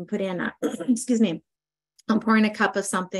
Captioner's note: coughs